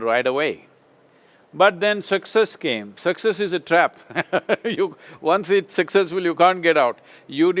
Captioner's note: laughs